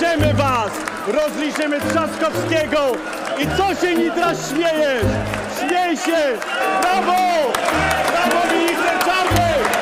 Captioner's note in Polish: Aplauz